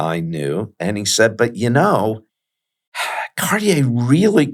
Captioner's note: sighs